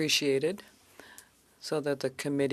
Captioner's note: speaking French